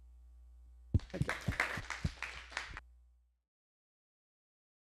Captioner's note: applause